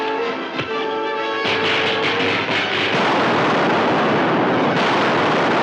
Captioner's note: machine exploding